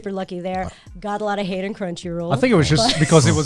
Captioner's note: laughs